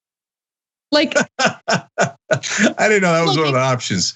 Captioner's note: laugh